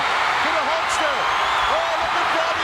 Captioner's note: audience cheering